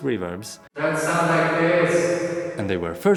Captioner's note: reverbered voice